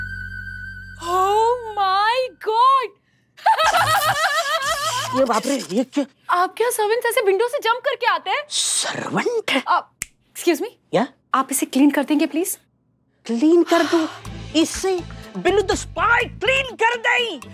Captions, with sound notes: Oh my god. [laughing hysterically] Oh god. Do all your servants enter through the window? Servant? Excuse me, will you please clean this? Shall I clean this? You want Billu, the spy to clean this?